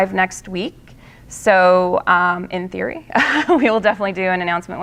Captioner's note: laughing